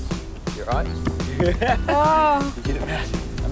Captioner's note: laughs